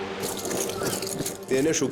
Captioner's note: feet stomp